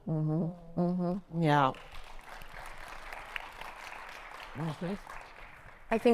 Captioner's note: audience clapping